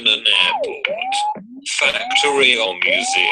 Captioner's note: electronic noises